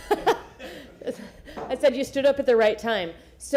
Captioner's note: laughter